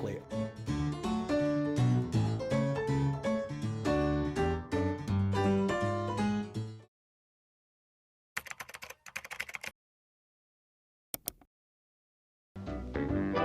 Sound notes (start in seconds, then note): 0.0 lively music; 8.4 keyboard clicking; 12.8 upbeat music